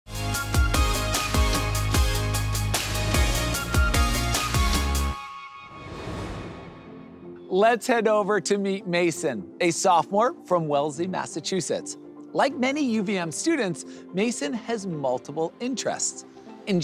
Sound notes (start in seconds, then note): 0.1 upbeat electronic music; 5.6 transition whooshes